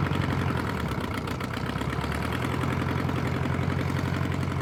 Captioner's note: engine revving